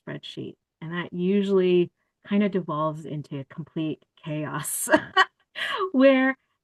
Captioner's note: laughter